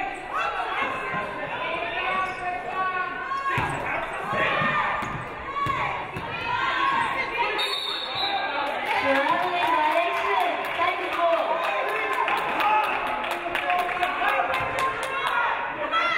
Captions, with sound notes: (referee blows whistle) Traveling violation. Tigers ball.